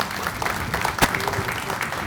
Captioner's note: applause